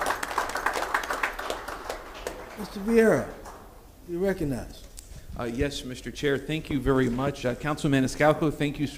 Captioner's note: applause